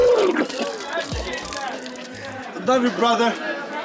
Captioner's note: mixed shouts